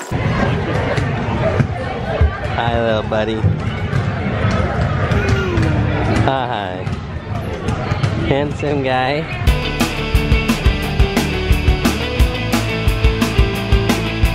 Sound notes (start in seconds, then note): 0.8 crowd talking; 5.1 baby cooing; 9.4 rock music